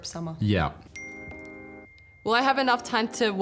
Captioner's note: phone pings